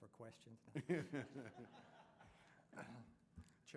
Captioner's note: laughter